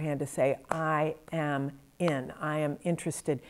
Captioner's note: claps hands